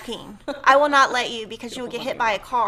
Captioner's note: laughs